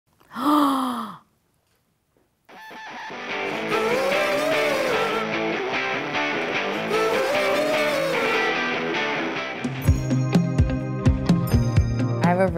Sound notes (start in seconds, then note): 0.2 gasps; 2.7 upbeat rock music